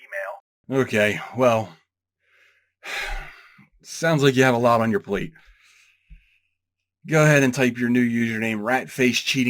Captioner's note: sigh